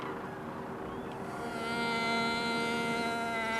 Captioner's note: mimicking moose call